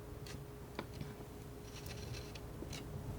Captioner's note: scratching